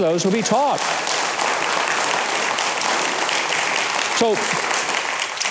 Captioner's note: audience clapping